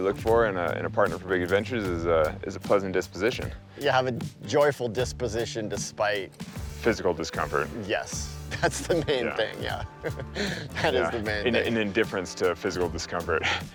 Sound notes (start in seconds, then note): 8.5 laughing